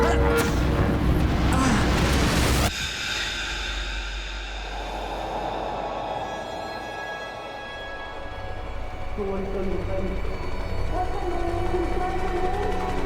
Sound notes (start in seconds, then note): 1.4 groaning; 4.9 wind blowing